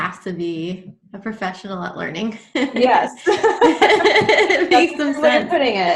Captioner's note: laughs softly